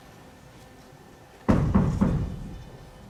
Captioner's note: there is a knock at the door